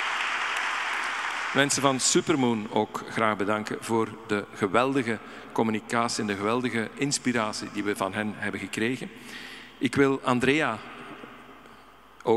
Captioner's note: audience applauding; speaking in Dutch